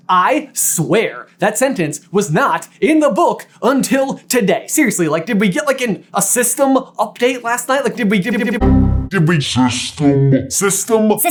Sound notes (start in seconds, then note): 8.4 system error sound